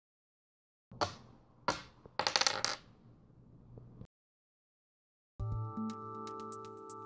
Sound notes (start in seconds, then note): 1.7 dice rolling sound